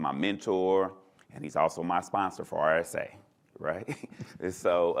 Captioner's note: chuckles